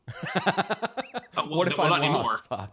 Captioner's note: laughs